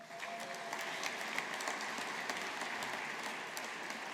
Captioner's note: audience applauding